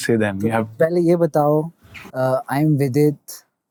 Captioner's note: speaking in Hindi